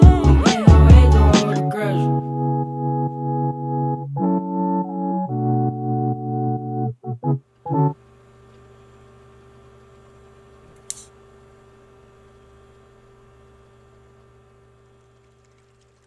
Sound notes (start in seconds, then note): 10.7 click